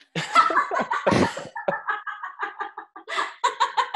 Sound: laughing

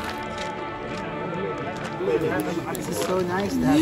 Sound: people chattering

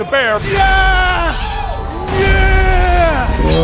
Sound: screaming

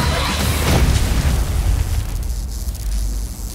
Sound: electricity crackling

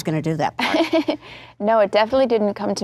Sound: laughing

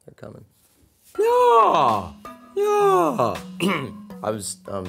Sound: vocal stretching

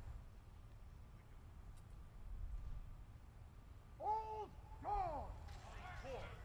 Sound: soldiers shouting commands

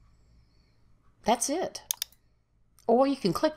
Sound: mouse clicks

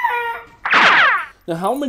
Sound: monster screams; monster springs

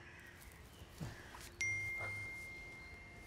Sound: phone chimes

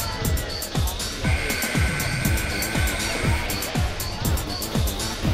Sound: buzzer sounding

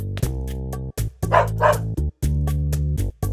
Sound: dog barking

